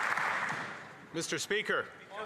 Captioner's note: applause